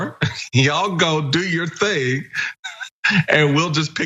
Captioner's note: laugh